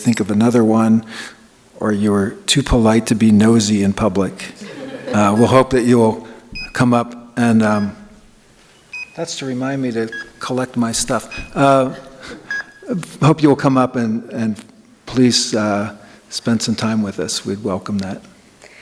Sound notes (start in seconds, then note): 6.7 beeping